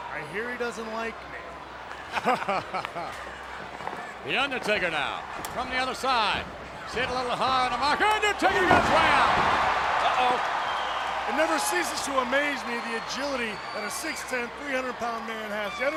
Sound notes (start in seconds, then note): 2.2 JR chuckles; 9.3 audience cheers